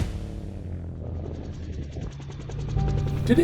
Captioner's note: helicopter propellers